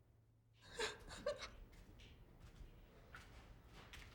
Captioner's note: sobbing